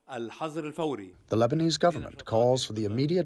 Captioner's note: through translator